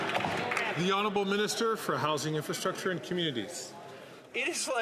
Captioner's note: some Applause